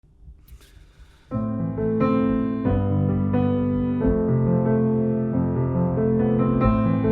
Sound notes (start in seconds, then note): 0.5 breathing noise; 1.3 piano keys